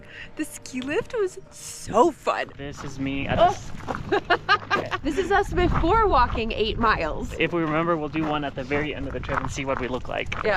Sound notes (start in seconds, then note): 3.8 laughs